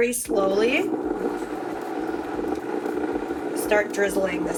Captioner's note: food processor whirring